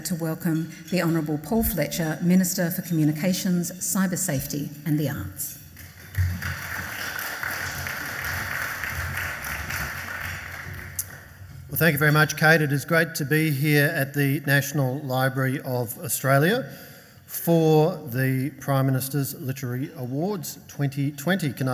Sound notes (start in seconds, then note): 5.8 audience applauds